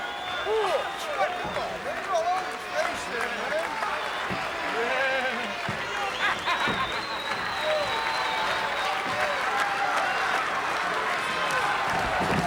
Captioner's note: applause